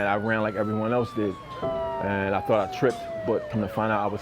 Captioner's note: police sirens wailing